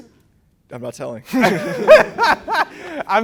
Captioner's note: laughing